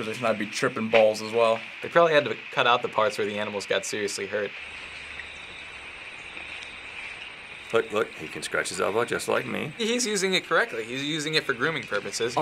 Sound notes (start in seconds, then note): 4.6 ambient animal noises